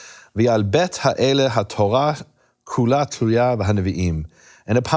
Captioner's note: speaking in foreign language